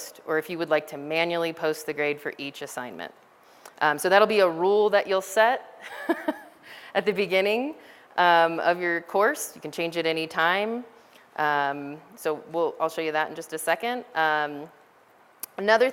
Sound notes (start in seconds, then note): 5.8 laughter